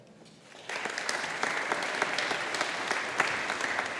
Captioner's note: audience applauding